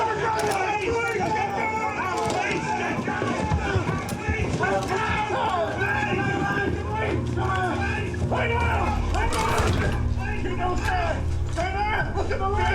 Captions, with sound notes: (policemen continue shouting) Lie down! Lie down! Stay there! Look at the light!